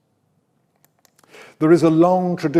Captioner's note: mouse clicks